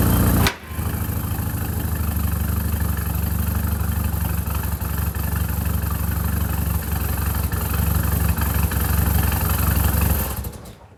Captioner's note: engine noise